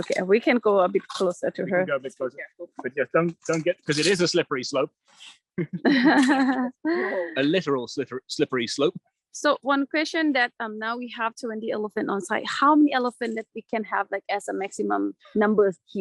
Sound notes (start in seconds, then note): 5.7 laughter